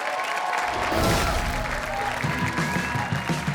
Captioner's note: audience cheers; upbeat surfer music